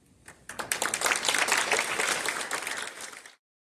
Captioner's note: applause